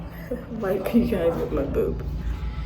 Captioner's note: laughs